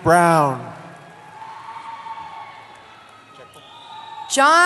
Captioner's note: cheering